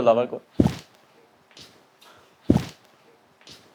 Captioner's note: flop